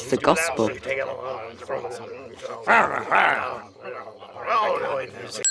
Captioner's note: men grumbling angrily